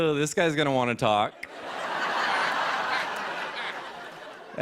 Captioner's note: laughter